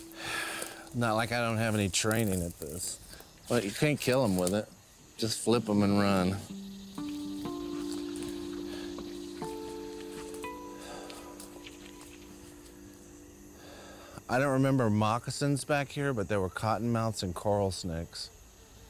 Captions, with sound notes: Not like I don't have any training at this, but you can't kill him with it. Just flip 'em and run. [exhales] I don't remember moccasins back here, but there were cottonmouths and coral snakes.